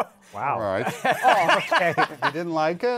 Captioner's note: laughing